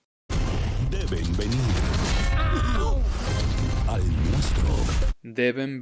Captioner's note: speaking in Spanish; speaking in Spanish